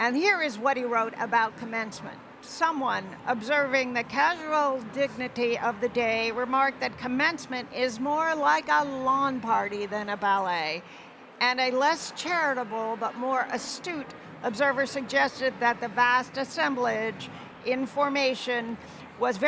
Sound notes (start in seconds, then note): none